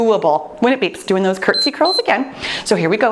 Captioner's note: timer beeps